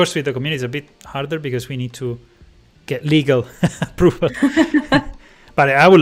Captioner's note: laughs